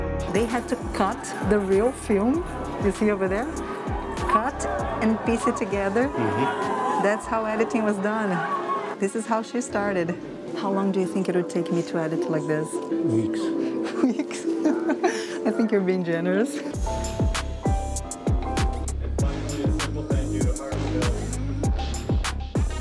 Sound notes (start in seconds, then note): 13.7 laughs